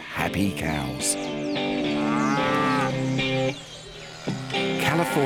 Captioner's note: cows moo